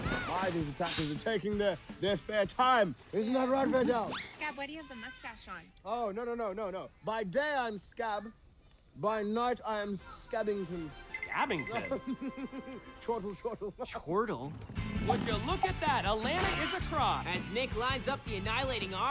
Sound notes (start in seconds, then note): 11.4 laughs